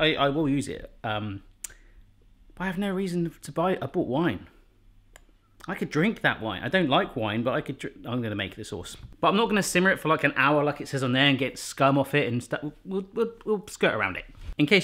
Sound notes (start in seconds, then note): none